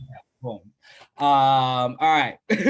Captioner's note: laughter